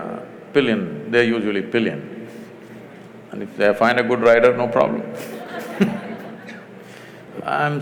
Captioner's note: laughter